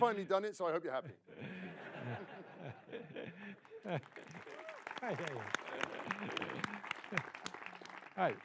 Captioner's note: laughter / grateful applause